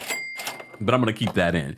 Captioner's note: register chime